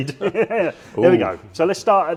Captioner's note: laughs